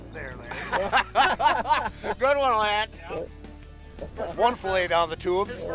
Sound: laughing

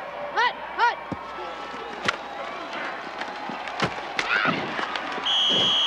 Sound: whistle shrills

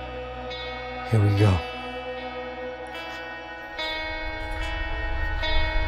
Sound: turtle chirps

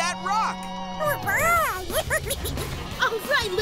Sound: squeaking

